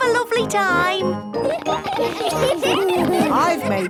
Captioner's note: laughter